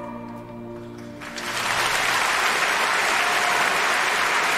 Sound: applause

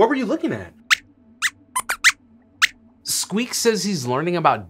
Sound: squeaks squeaks

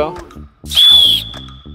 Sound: goes off with a whistle

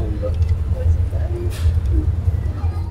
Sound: crying

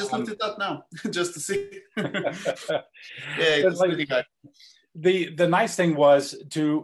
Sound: laugh

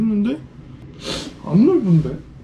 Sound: sniffle

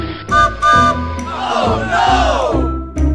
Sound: train whistle; voices

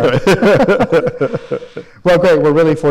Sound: laughs

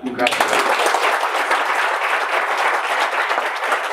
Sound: audience applauding

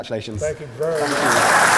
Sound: applause

